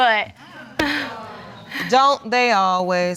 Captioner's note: audience exclaiming